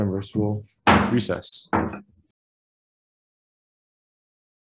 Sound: gavel banging

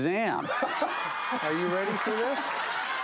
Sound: laughing

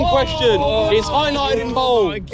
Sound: everyone groaning

